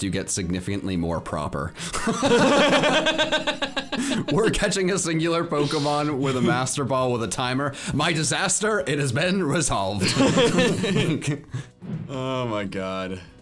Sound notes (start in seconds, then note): 1.9 both laughing; 10.0 both laughing